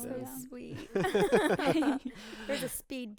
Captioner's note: group laughing